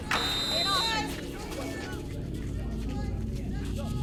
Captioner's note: whistle blows